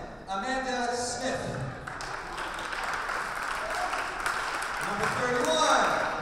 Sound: audience applauding

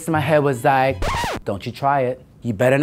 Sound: record scratching

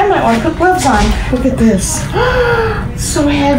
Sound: gasps

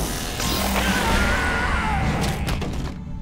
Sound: screaming; thudding

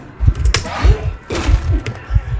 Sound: intense keyboard typing

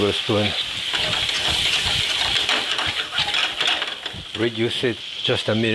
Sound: pan rattles

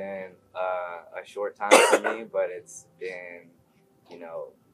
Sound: cough

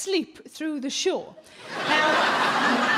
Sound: crowd laugh

